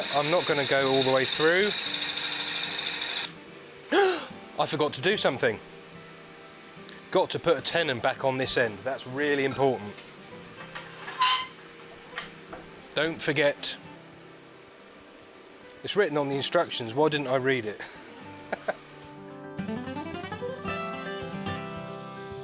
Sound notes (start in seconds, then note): 3.9 gasps; 19.4 jazzy music